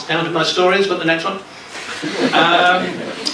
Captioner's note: laughter